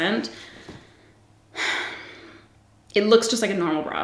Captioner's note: sighs